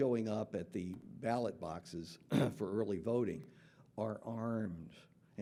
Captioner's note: clears throat